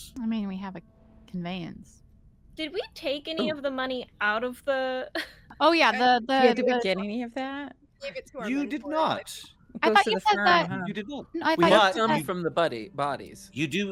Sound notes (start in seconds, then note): 5.2 laughs